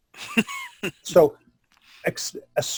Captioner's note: laughing